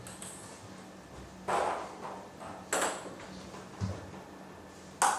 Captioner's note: ball ping pong hitting continues